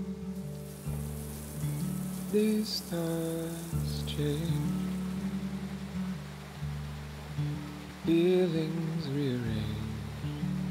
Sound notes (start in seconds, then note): 5.5 water gushing; 10.5 gentle music